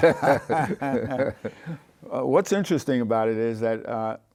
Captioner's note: laughs